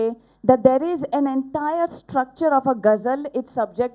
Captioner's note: non-english speech